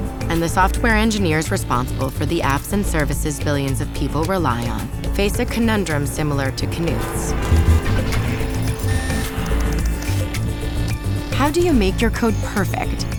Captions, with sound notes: and the software engineers responsible for the apps and services billions of people rely on face a conundrum similar to Knuth's. [traffic noises] [machines buzz] [keyboard clicks] How do you make your code perfect